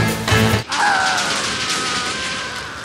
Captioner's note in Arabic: أنفجار